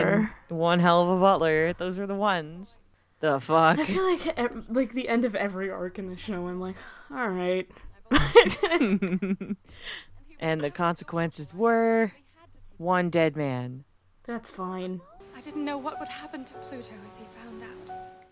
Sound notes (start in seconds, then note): 8.1 both laughing